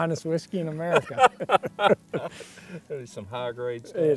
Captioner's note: laughter